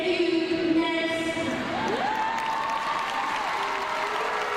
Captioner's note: crowd clapping